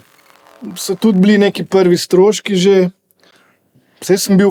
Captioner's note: computer sound